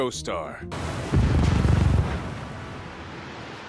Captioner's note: crash